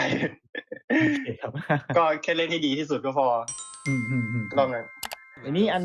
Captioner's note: laughs